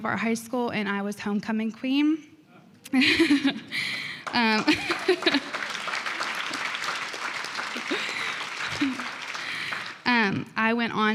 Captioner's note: applause